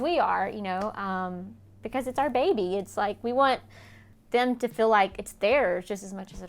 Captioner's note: none